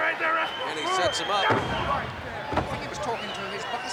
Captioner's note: blows thudding